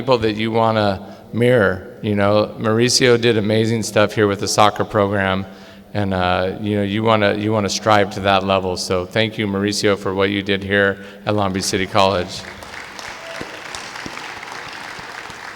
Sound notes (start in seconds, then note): 11.5 clapping